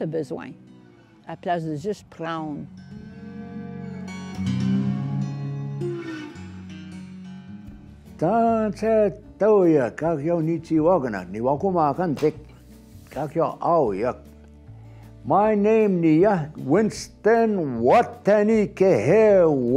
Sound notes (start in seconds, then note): 3.4 slow country music; 9.0 speaking foreign language